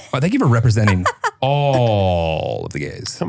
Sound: laughs

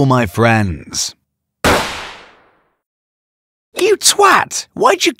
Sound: gunshots fired

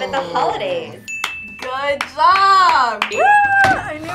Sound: ding; claps

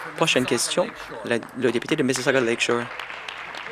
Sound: applause

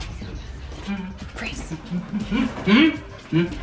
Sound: dad humming

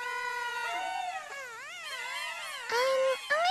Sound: playfully yelling

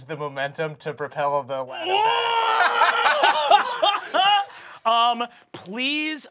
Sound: laughs

